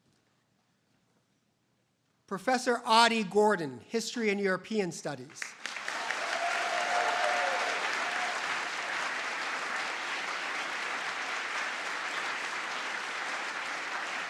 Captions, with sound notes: Professor Adi Gordon, history and European studies. (audience applauds)